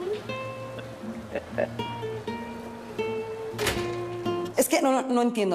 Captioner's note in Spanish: Ríe